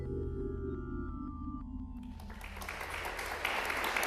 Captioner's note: applause